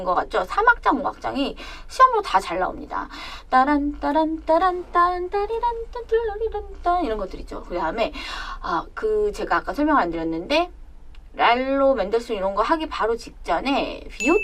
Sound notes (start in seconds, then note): 3.6 'hums melody'